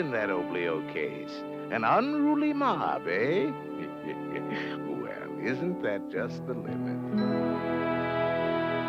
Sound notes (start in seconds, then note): 3.8 laughs